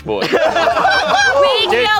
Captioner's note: everyone laughing